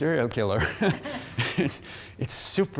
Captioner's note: laughing